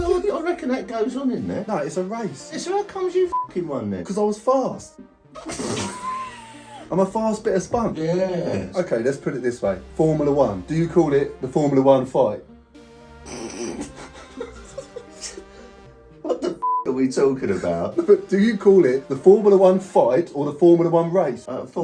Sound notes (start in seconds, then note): 3.3 beep; 5.3 dad laughing; 13.2 sniggers; 16.6 beep